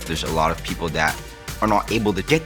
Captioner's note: none